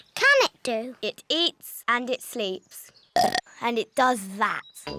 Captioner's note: burps